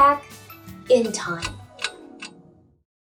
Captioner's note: clock ticking